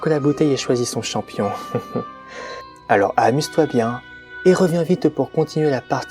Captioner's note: laugh